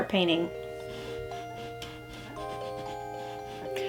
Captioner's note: eraser rubbing against canvas